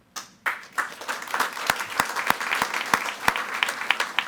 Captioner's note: all applauding